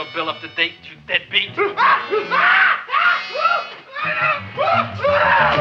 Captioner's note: man screaming